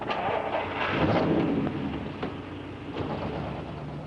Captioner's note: engine revs